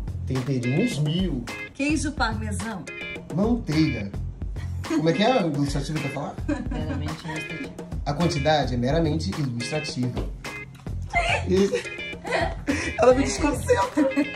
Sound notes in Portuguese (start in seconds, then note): 11.0 risos